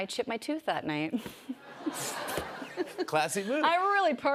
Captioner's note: laughter